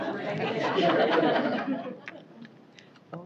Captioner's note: indistinct chatter; laughter